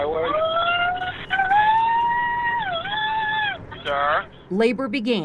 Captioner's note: screaming